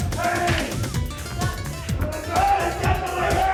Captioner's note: hands clapping; upbeat music continues